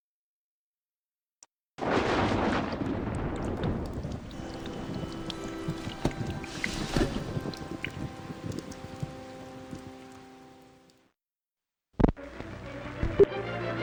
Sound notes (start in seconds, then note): 1.0 soft dripping; 1.0 thunder rumbling; 3.9 rain splattering; 6.0 gentle music; 12.0 static; 12.2 inspirational music